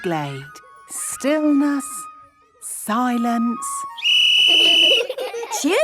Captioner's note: whistle blowing; laughter